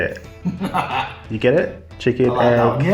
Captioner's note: laughs